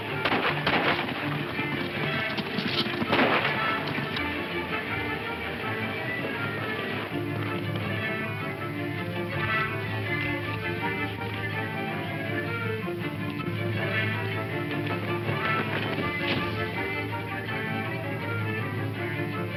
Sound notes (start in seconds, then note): 0.1 guns firing; 3.6 upbeat dramatic music